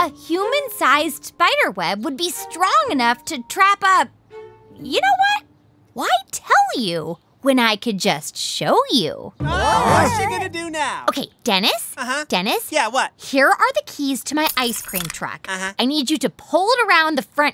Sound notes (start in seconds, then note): 14.4 soundbite of keys jingling